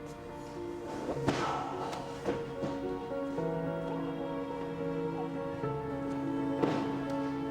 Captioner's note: body thuds; men grunt